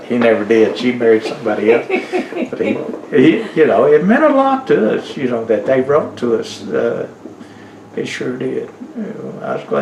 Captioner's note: laughter